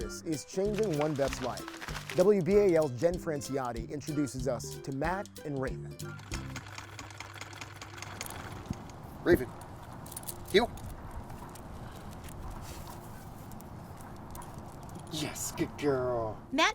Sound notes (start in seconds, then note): 6.0 sewing machine clicks